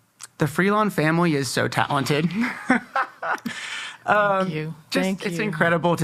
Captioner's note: laughing